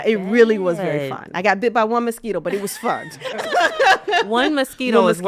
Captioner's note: laughs